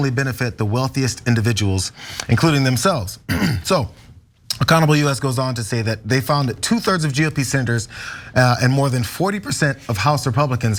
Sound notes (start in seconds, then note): 3.2 cough